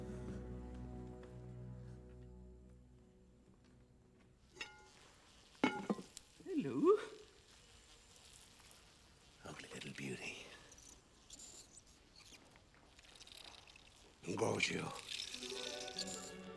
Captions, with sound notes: [INSECTS BUZZING] Hello. Lovely little beauty. [CHITTERING] Engorgio.